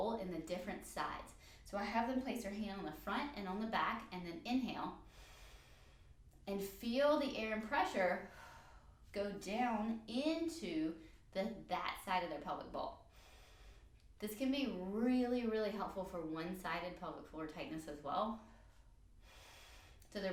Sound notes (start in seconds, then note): 5.9 inhale; 19.5 inhale